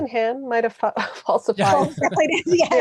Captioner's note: laughing